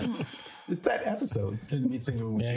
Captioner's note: group laughing